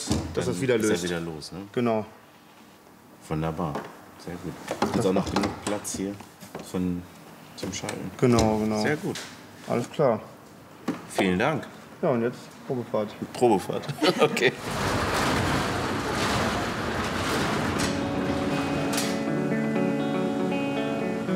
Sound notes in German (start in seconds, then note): 13.1 lachend; 19.2 Ruhige Musik